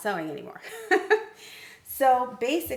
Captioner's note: laughs